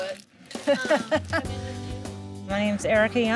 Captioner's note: laughs